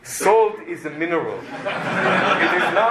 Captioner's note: laughter